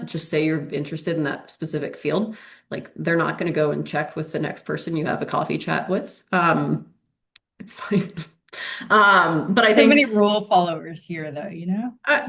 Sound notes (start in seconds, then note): 9.5 chuckles